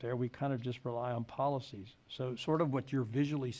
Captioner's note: none